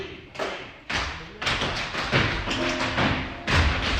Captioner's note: tap dancing